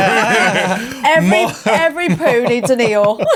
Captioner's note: everybody laughing